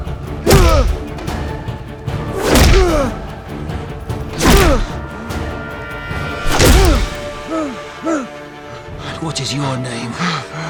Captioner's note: grunts